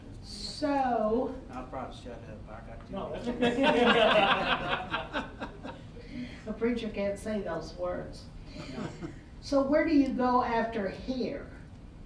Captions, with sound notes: - So. - I'll probably shut up. I got too many stories. (all laughing) - A preacher can't say those words. - No. - So where do you go after here?